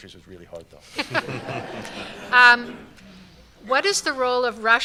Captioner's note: laughter